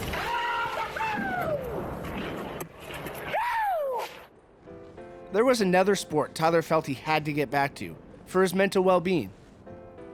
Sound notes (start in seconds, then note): 0.6 screams joyfully